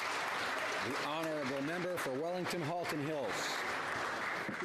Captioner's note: some Applause